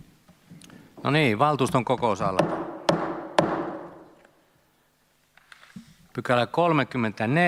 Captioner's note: Kaksi nuijan kopautusta